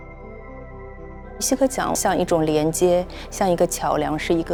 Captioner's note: Mandarin